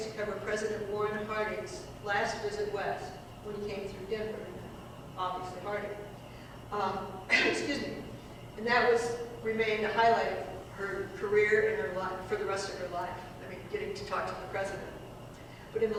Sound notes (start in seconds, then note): 7.2 cough